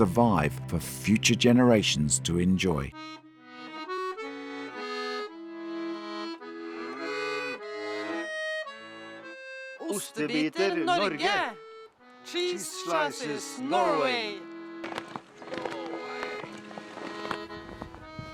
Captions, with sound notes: survive for future generations to enjoy. (ACCORDION MUSIC) (BOTH SPEAK NORWEGIAN) Cheese Slices, Norway! Norway!